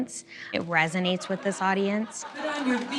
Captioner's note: audience laughter